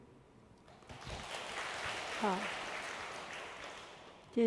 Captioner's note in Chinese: 眾人鼓掌